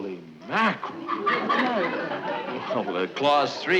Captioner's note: audience laughing